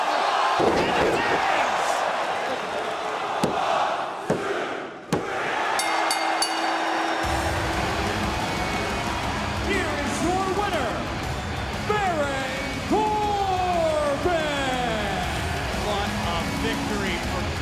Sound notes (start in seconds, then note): 2.4 crowd cheering; 5.7 bell ringing